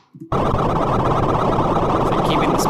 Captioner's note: distorted electronic beeping